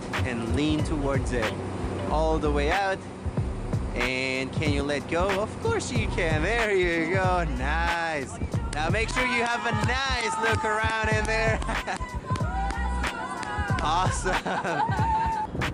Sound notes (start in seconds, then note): 9.0 cheering and clapping; 11.1 laughing; 12.9 cheering and clapping